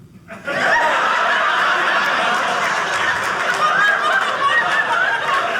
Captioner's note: audience laughing